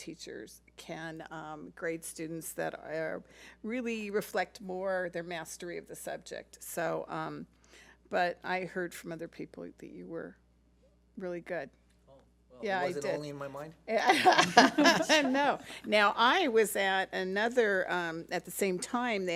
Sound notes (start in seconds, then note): 14.0 laughs